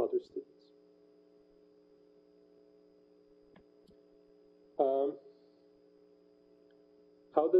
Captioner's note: pause